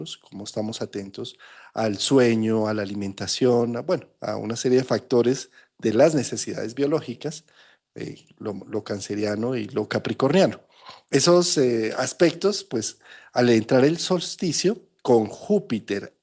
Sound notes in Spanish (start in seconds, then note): 10.8 resoplido